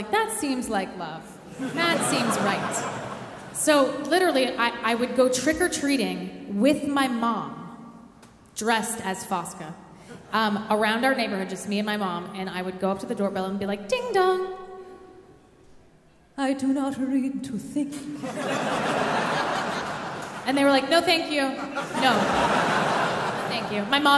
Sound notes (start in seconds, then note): 18.2 audience laughing